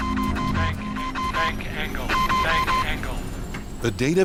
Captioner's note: sinister music; alarm beeping; recorded Voice; alarm beeping